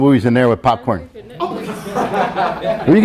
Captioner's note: students laugh